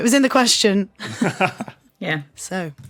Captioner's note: chuckles